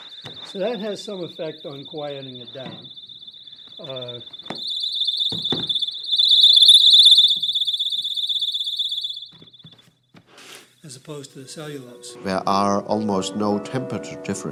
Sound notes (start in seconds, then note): 4.3 blaring fast chirping